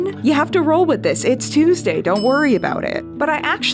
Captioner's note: ding